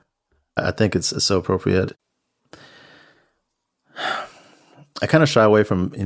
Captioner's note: takes a deep breath and exhales